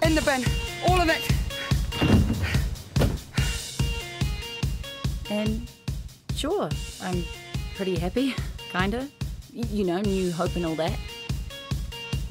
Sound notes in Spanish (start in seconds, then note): 1.7 ruidos de golpe; 5.4 Voice over